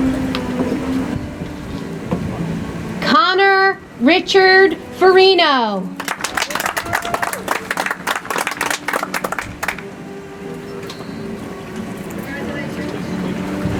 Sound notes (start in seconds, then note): 5.9 audience applauds; 11.1 soft music